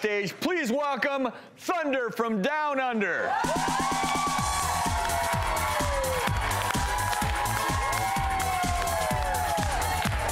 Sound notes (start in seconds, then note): 3.3 audience cheers and applauds